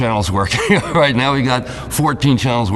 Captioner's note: laughs